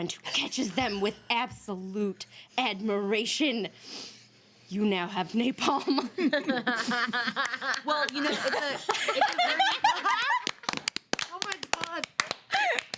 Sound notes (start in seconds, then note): 5.8 women laugh; 6.2 women clap